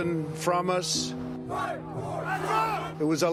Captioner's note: crowd